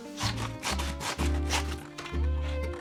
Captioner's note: paper tearing